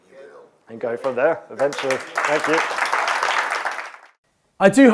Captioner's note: audience clapping